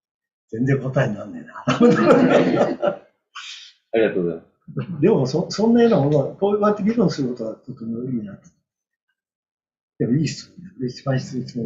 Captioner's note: laughs